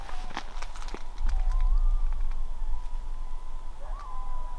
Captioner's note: coyotes howling